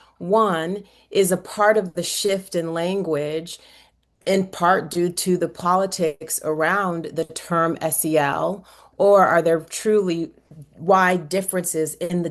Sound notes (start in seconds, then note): none